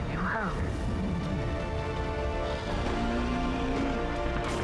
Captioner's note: roaring